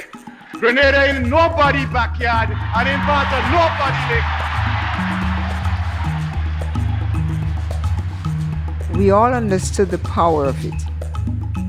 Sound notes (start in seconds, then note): 6.1 soundbite of crowd cheering